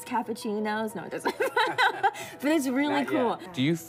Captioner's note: laugh